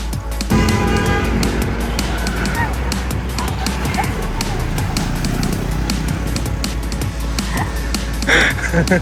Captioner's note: traffic noise; laughing